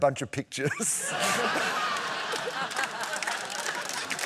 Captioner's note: laughter; applause